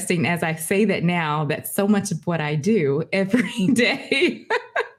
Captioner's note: laughing